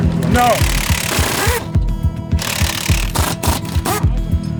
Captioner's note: drilling